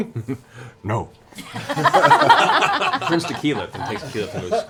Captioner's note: laughter